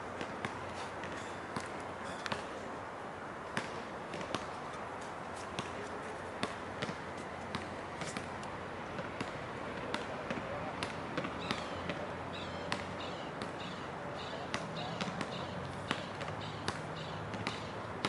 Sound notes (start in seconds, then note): 9.2 people chattering; 9.9 bird squeaking